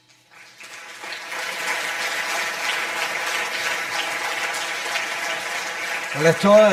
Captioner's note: audience applause